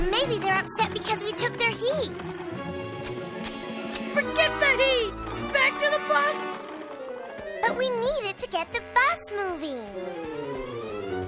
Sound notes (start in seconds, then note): none